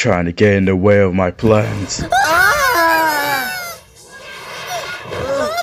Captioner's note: Nate & Hailey scream